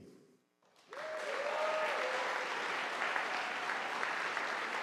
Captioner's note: audience applauding